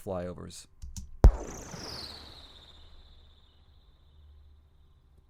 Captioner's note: cannonball fires lightly